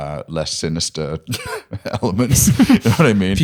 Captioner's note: laughter